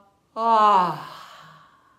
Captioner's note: exhaling